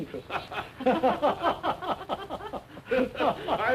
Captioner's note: laughter